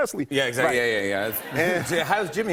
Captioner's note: laughter